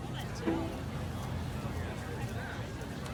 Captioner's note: people chatting